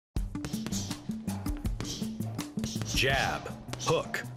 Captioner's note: grunting